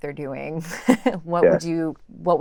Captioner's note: laugh